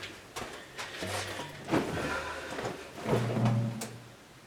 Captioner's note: sigh